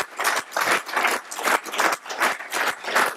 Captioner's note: applause